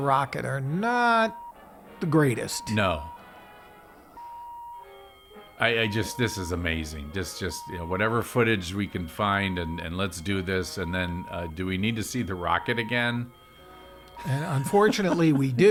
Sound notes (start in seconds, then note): 4.2 tone beeping; 4.6 alarm ringing